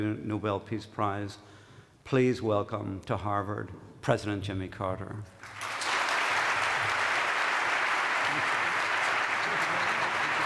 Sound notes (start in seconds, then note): 5.3 applause